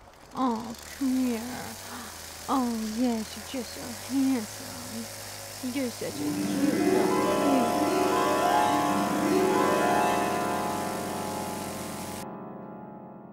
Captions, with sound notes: *cooing* Oh come here, oh yes you're just so handsome! *chainsaw purring* *dream transition sounds*